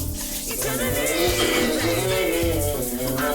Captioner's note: humming